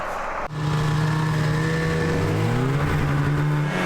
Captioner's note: snowmobile engine